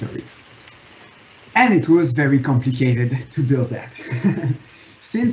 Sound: laughing

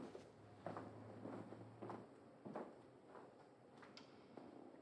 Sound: footsteps clacking

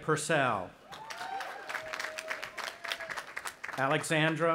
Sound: audience applauding

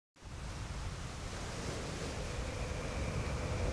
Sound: waves whooshing

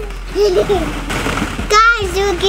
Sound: giggling

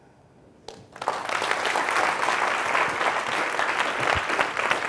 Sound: audience applauding

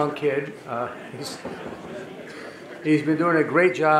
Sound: audience laughing

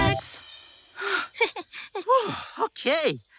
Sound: FoFo chuckles; Duo sighs

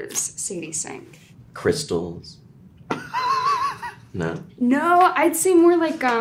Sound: everyone laughing

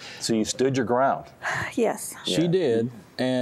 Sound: sigh

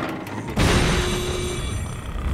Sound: honking; snoring

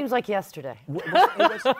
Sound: laughs

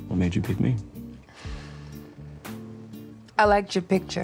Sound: gentle music; sighs

